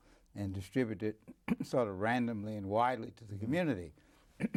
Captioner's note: clears throat; clears throat